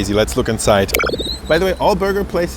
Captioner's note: pocket knife switches